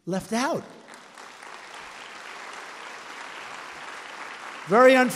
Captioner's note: applause